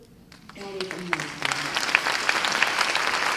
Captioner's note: applause